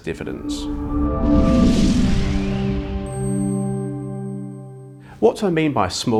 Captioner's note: gentle music; graphics whooshing